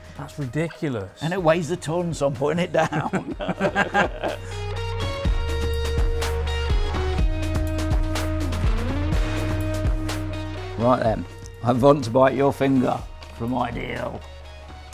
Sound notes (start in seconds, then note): 2.6 both laugh; 4.9 upbeat music continues